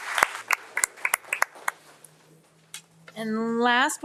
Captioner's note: audience applauding